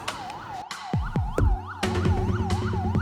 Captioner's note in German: Sirene; Unruhige Musik